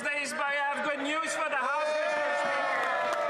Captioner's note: some Applause